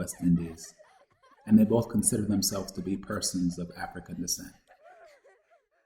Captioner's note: children laughing